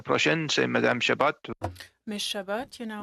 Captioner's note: speaking FRENCH